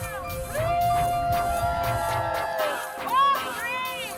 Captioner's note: cheers